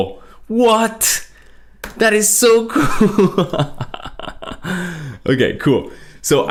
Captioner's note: laughs